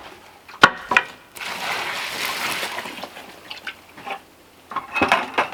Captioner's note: water pouring